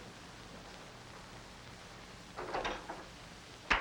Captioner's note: door opening and closing